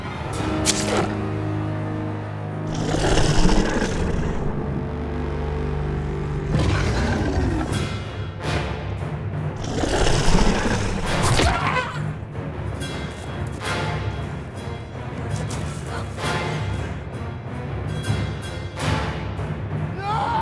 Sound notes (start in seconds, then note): 0.2 knife thudding; 2.6 creature groaning; 7.6 dramatic orchestral music; 9.6 claws thudding; 9.6 Angela shrieking; 13.1 dramatic orchestral music; 15.6 Linda thudding to ground and grunting